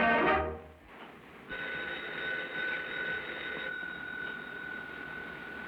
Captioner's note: telephone Ringing